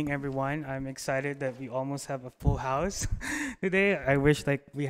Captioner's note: laughs